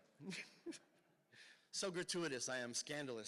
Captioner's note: laughs